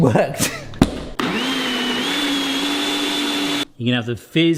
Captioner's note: blender thuds; blender buzzing